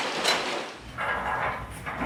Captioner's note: roller door clatters